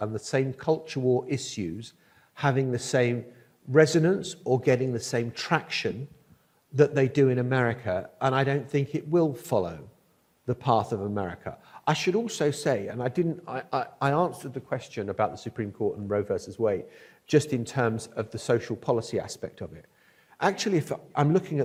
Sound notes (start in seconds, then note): none